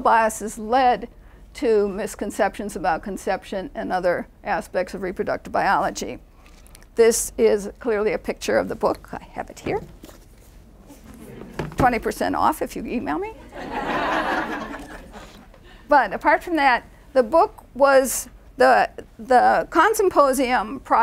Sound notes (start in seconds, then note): 13.4 laughing